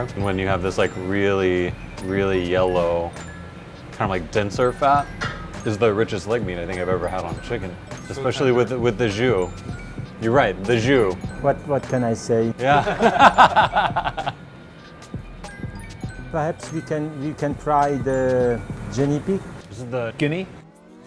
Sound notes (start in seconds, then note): 12.7 laughs